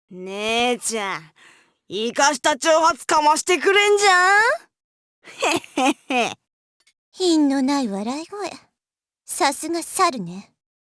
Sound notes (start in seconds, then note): 5.3 chuckle